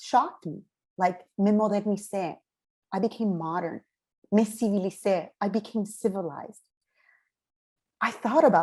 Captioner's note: spanish